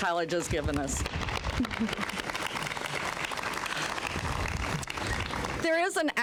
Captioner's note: applause